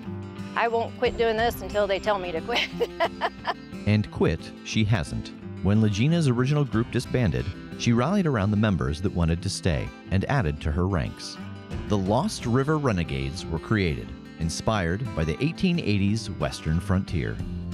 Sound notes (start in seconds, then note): 2.5 laughter